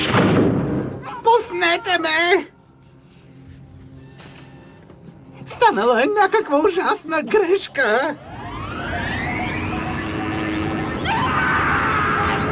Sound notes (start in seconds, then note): 8.0 electrical hum; 9.1 buzzing